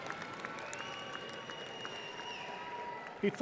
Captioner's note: audience applauding